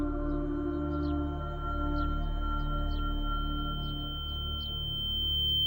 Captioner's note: high-pitched ringing; ringing intensifies